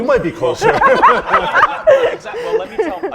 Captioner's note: laughter